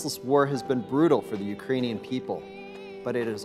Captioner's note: child crying